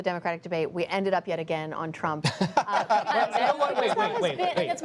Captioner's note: laughter